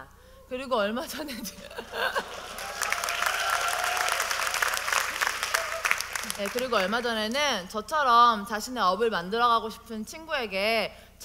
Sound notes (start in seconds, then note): 1.8 audience: Applause